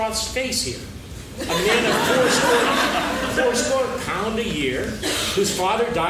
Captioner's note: laughing